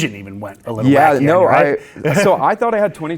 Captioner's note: laughs